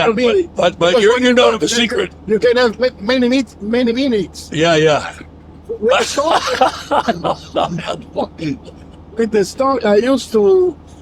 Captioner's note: laughing